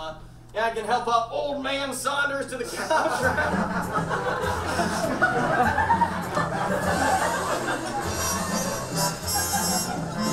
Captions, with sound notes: I'm, yeah, I can help our old man Saunders to the couch. (audience laughs) (quirky music)